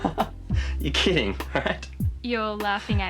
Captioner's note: chuckles